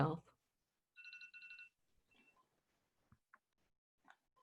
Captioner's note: phone ringing